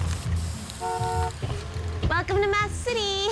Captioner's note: horn honking